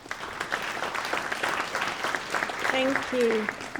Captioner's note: applause